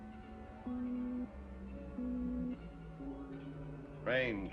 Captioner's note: beeping